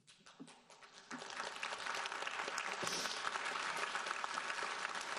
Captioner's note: audience applauding